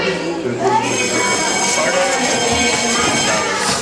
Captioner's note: school bell